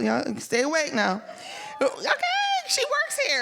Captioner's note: audience members cheering